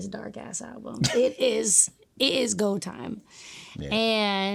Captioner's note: laughing